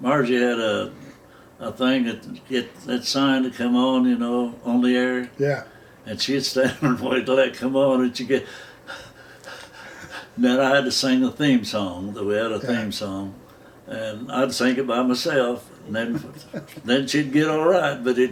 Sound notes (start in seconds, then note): 8.5 makes wheezing noises